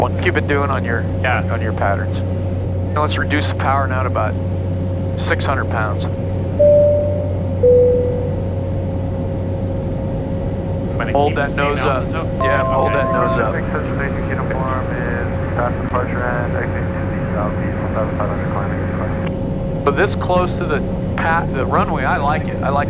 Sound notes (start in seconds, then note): 6.6 beep sound; 14.3 talking over radio